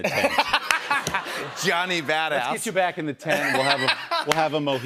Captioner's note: laughs